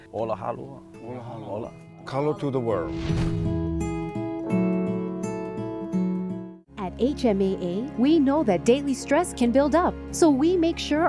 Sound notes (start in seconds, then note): none